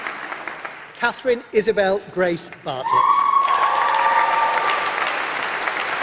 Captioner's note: applause